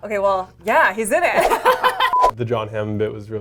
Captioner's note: laughs